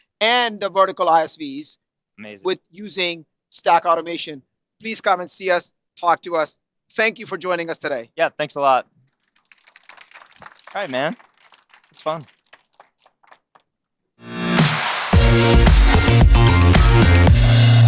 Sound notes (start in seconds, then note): 7.1 applause